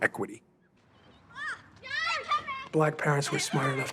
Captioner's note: calling and yelling